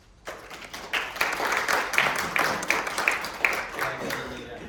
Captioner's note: audience applauding